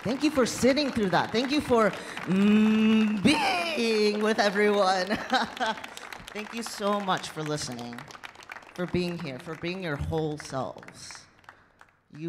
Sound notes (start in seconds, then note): 5.0 laughs